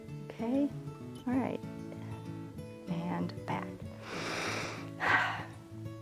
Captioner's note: inhales and exhales